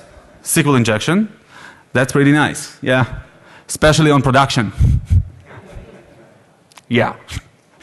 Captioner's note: laughter